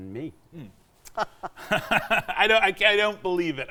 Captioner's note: both laughing